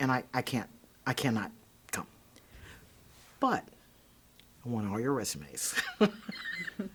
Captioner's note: laughing